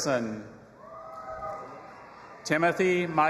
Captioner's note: audience applauding and cheering